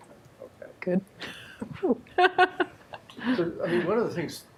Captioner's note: laughs